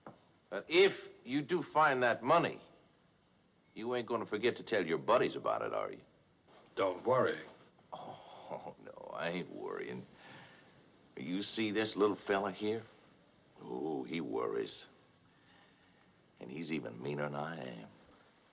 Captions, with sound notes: If you do find that money... you ain't gonna forget to tell your buddies about it, are ya? - Don't worry. - [ Chuckling ] Oh, no, I ain't worryin'. You see this little fella here? Oh, he worries. And he's even meaner than I am.